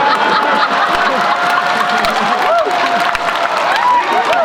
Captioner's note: laughter